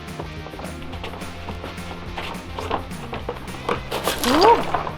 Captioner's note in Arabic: صوت خطوات